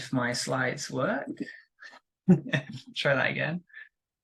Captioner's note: laughs